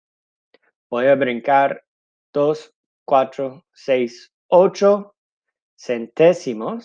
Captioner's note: speaking in foreign language